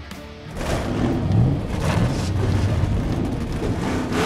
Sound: revving

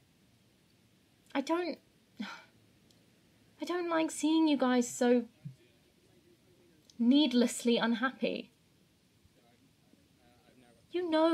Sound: sighs

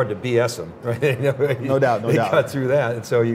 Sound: laughter

